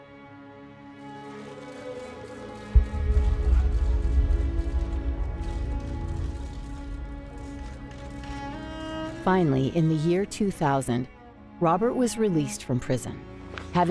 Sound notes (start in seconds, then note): 3.0 crowd chats, cameras click; 3.0 melancholy music playing